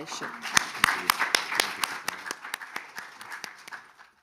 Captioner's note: audience applauding